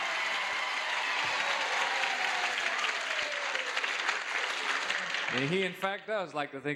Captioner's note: audience cheers